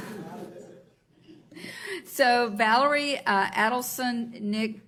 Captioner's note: laughs